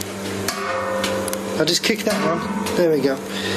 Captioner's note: metallic ping